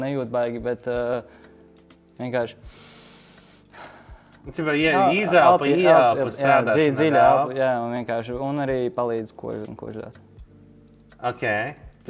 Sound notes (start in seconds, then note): 2.6 breathes out; 2.6 deep breath